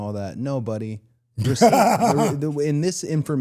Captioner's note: DDP laughs